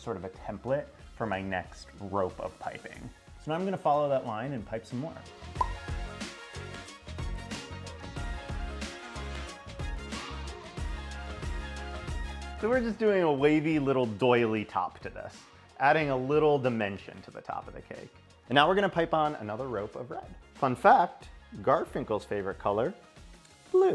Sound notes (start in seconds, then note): 5.6 graphic pops; 5.7 upbeat electronic music